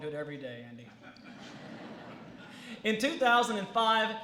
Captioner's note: laughter